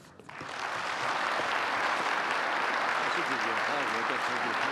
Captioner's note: applause